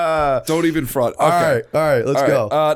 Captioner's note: laughter